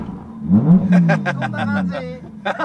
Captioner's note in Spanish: risas